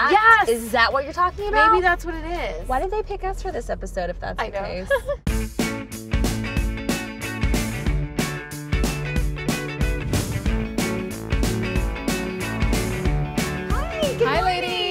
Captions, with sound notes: Yes! Is that what you're talking about? -Maybe that's what it is. Why did they pick us for this episode if that's the case. -I don't know. (Laughs and smirks hehe) Even better music Hi, good morning! -Hi ladies.